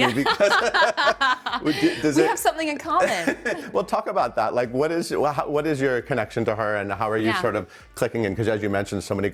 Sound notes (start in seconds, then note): 0.0 laughing